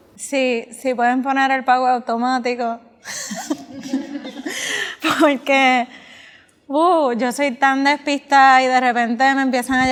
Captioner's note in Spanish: risas